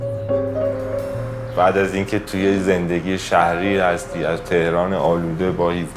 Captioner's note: speaks in other language: translation on screen